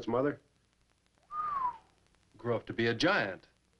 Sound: whistling

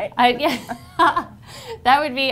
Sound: laughing

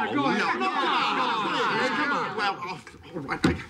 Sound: shouts of encouragement

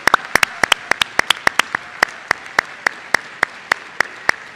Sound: applause

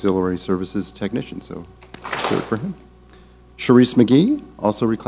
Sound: clap smack

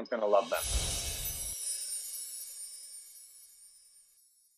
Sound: chimes tinkling

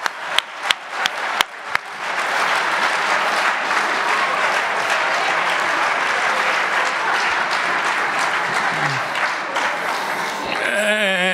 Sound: audience laughs

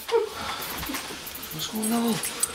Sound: Renee cries

